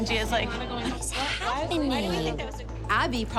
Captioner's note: overlapping chatter